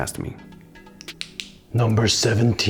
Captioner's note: click